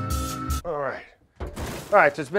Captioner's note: light jazz elevator music; pan heavily thuds